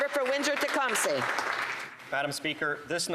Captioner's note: applause